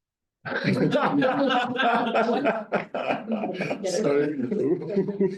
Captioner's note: all laughing